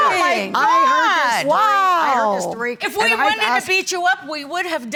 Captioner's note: women yelling